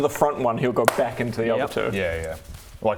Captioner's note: smack!